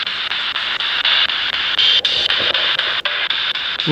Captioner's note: breathing into the camera microphone